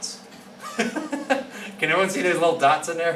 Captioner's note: laughing